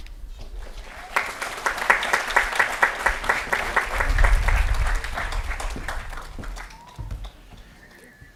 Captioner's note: applause & Cheering